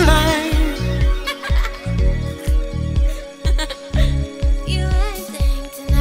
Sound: woman laughing

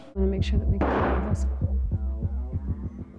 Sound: gun shot

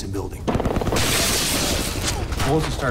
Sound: gunfire

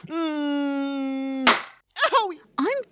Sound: slap

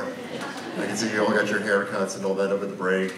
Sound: audience laughs

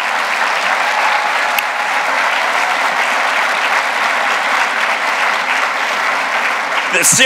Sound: applause

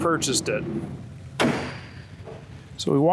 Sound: car trunk slams shut

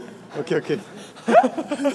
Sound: haha

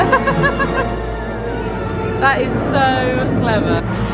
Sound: laughing; scary music

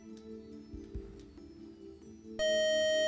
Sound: time-out buzzer

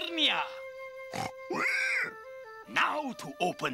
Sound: rolo grunting

